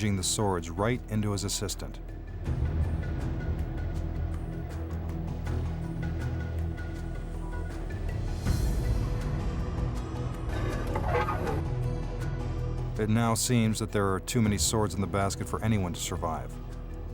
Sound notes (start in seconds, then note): 2.9 dramatic music continues; 10.4 sword scrapping